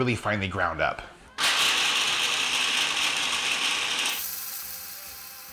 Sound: mixer grinding

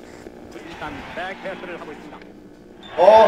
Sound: static noise

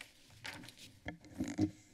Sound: papers flipping

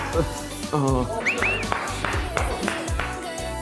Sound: clap clap

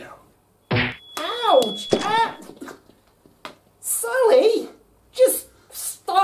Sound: bonk!

